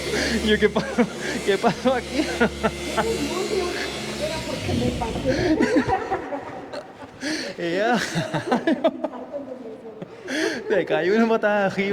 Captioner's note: laughs